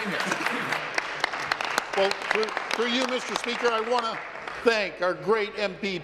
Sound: applause

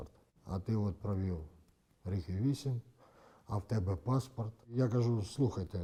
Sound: russian

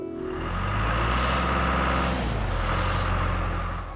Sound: engine Running; birds Chirping

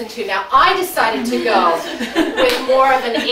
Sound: audience laughing

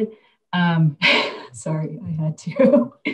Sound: laughs

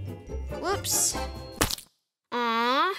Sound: sandwich splatting

